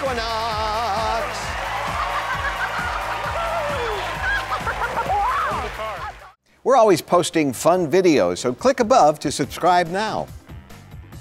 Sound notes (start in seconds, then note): 1.6 laughing and cheering